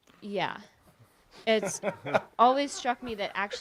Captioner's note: audience laughs